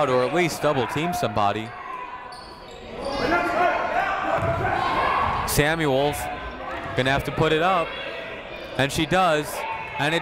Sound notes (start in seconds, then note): 2.9 people shouting in the crowd